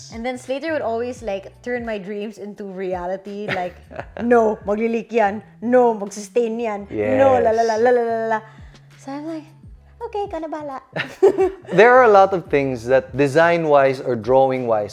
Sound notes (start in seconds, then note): 7.5 babbles; 11.0 chuckles